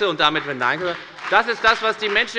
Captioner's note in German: Beifall bei der FDP